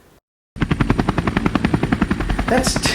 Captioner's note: helicopter engine roars